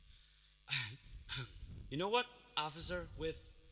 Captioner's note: cough